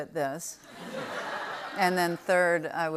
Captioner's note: laughter